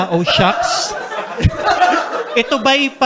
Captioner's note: laughter